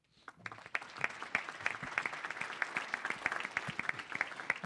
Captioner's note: audience applauding